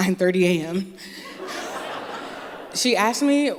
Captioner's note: laughter